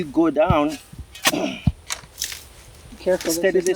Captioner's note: shovel clinks